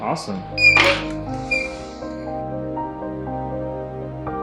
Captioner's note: door squeaking; soft piano music